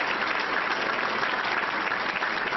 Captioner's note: applause